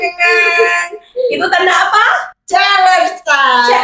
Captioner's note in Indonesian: berteriak